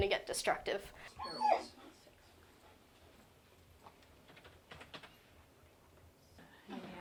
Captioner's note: dog whining, owner comforting pet at front desk